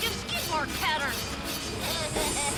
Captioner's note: Captain Flamingo laughs